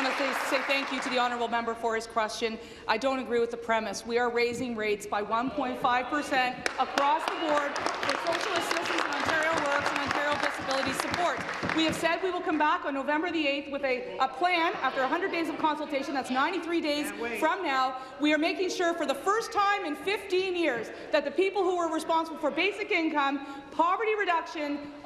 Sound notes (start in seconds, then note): 0.0 applause; 11.3 applause